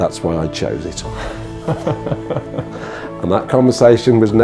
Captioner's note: laughing